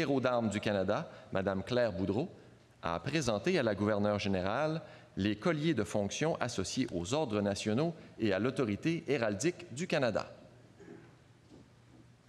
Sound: speaking French

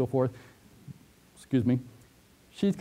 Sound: pause

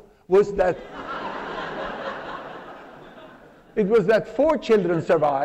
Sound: laughter

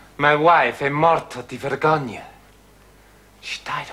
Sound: speaks Italian

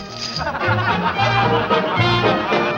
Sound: men chuckling; lively music

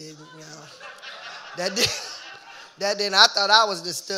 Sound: audience laughing

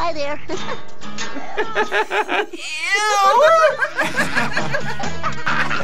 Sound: laughs; both laugh; laughs

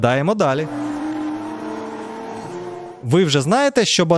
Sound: engine sound

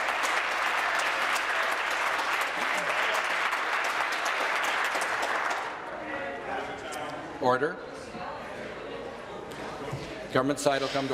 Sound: applause

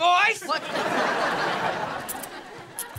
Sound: laughing

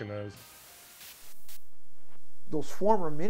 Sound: hissing static

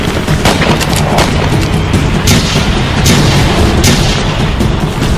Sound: gun shots firing

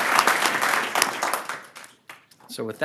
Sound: applause

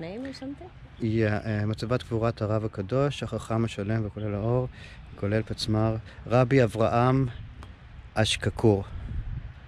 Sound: reading the Hebrew

